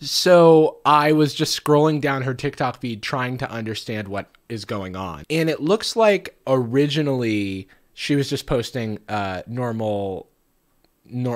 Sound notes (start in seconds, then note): none